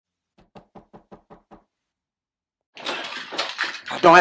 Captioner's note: knock on door